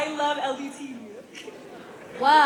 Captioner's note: laughter